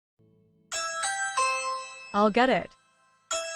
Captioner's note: Ring doorbell rings